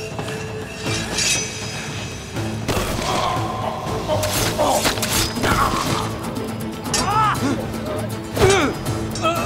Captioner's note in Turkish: Dövüş sesleri